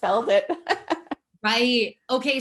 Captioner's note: laughs